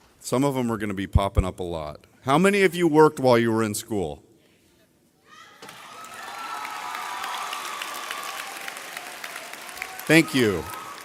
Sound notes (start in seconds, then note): 5.6 audience cheering loudly